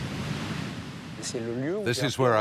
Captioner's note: speaking in foreign language